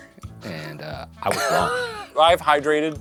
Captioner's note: wheezing